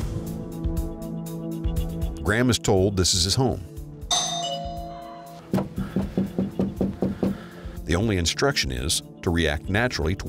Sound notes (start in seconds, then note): 0.1 eerie music; 4.1 doorbell chimes; 5.2 knocking